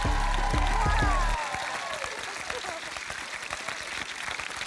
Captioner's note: cheering, applause